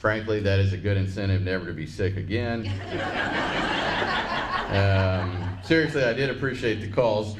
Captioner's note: laughs